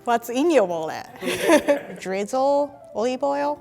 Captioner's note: laughs